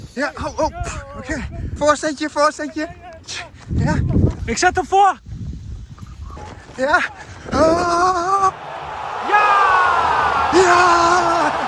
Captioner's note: applause